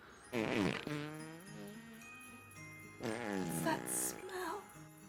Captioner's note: soft chiming music; Arizona farts